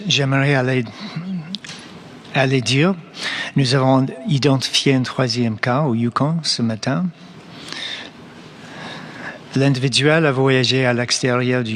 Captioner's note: speaking French